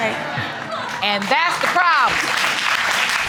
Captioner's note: audience claps